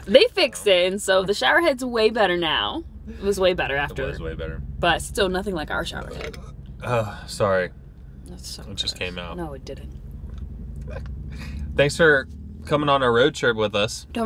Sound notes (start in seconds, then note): 5.9 burps; 10.5 laughs